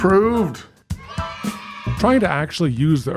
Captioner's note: children cheering